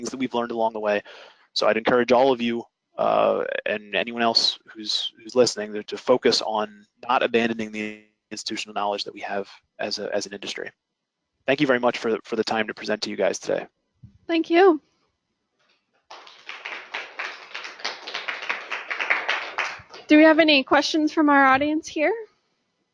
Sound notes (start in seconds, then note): 16.1 applause